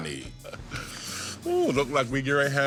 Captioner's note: chuckles